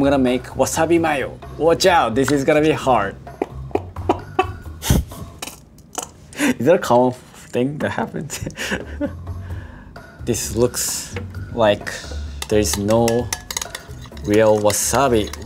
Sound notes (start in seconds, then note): 3.3 laughs; 3.5 mayonnaise spurting; 8.3 laughs